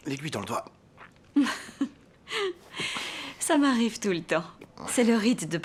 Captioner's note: laughing